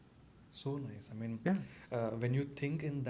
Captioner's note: hindi